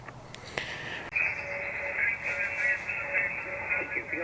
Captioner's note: radio static